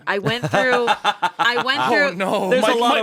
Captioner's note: laughs